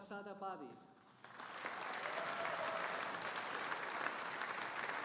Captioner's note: audience applauding